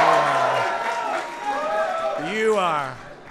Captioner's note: applause